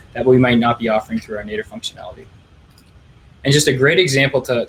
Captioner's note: clicking